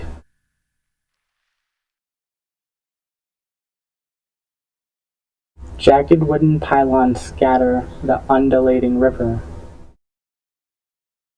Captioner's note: silence